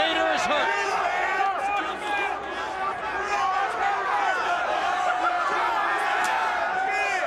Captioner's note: crowd chattering